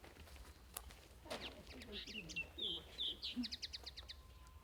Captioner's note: birds chirping